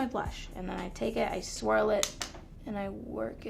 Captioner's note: tapping